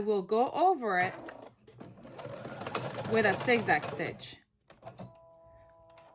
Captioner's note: sew machine whirs